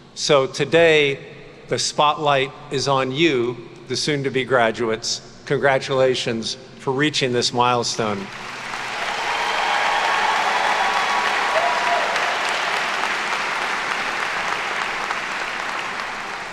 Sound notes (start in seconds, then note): 8.2 attendees cheer and clap